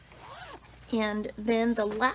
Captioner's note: zipper vibrates